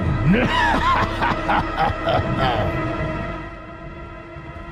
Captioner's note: evil laughter